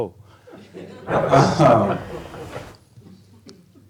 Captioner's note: laughter